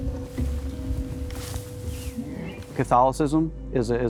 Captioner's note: thicket rustling